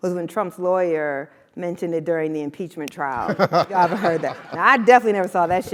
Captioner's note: laugh